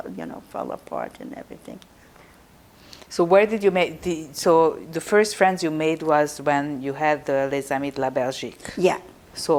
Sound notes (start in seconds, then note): 7.6 non-english